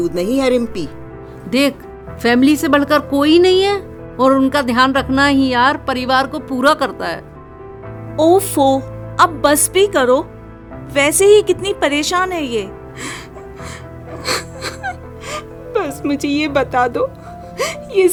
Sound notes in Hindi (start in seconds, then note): 13.3 नाक से की जाने वाली आवाज़; 14.2 हंसी